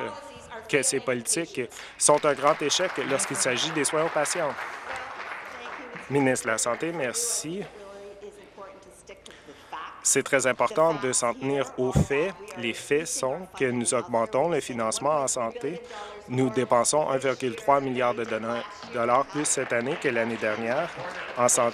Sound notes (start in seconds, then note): 5.0 applause